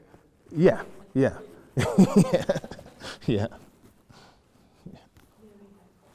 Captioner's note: laughs